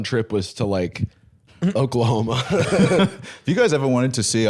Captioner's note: laughs